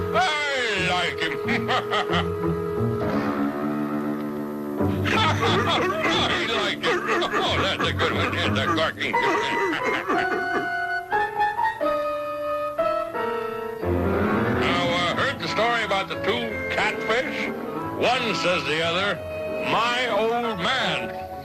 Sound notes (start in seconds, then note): 4.9 laughs; 4.9 playful music; 6.9 Mister Magoo laughing; 6.9 walrus barking; 11.3 laughs; 11.5 walrus barking; 14.2 playful music continues